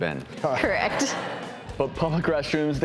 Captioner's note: laughing